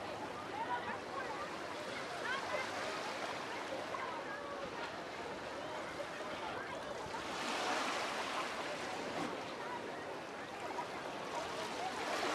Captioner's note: background chatter